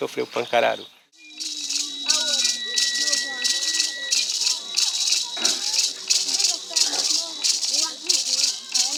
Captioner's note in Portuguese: Vozes dispersas de crianças